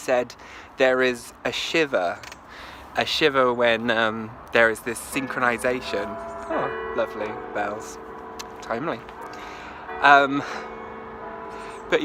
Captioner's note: sound of church bells strike